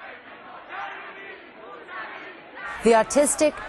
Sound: crowd noises

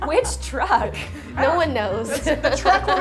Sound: laughs

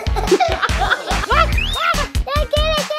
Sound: laughing; screaming

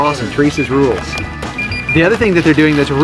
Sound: cash register beeping

